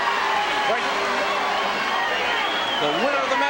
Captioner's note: crowd clamoring